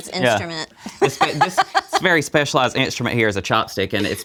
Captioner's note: laughs